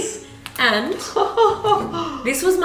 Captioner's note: laughing